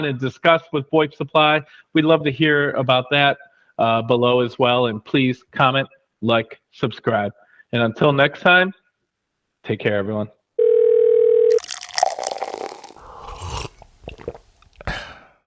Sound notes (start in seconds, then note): 10.6 phone ringing; 11.5 liquid pouring; 13.3 person sipping liquid